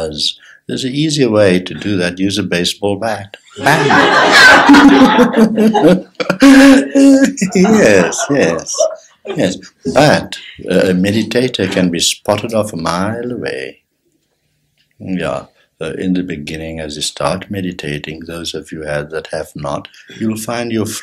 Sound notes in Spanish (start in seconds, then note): 3.5 Risas generales